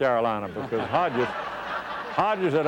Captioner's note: laughter